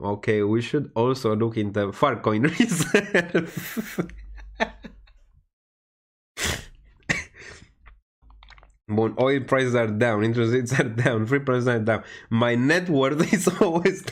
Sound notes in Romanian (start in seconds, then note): 5.2 Râsete